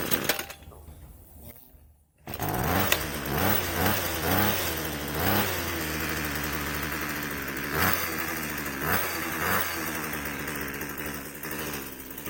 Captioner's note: engine Starts